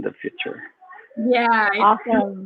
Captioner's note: speaks faintly